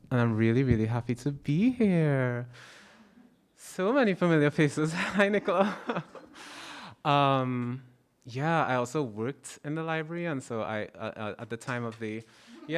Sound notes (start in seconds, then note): 6.4 laughs